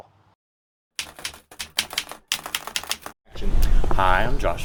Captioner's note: keyboard keys clicking